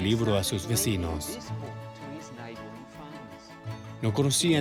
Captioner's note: Hablando idioma extranjero